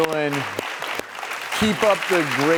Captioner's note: applause